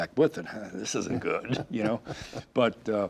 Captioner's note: laughing